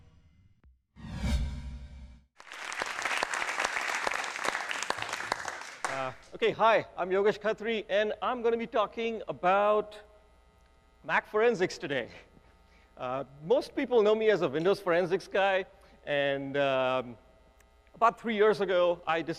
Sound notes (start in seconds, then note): 2.4 audience applause